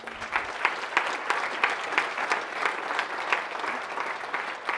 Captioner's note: audience applauding